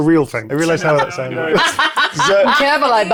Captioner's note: laughing